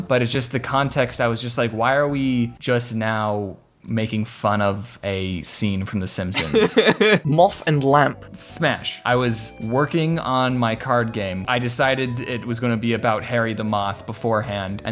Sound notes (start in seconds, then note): 6.3 laughs